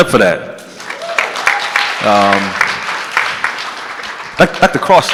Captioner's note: audience clapping